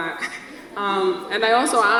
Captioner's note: audience laughs